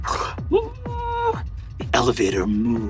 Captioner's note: Brennan mimics elevator humming